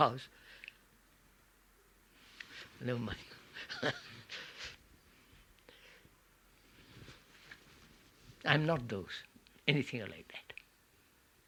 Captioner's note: laughs